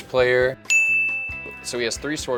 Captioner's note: computer dings